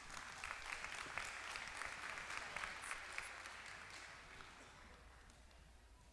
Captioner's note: applause